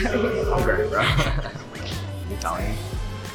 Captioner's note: laughs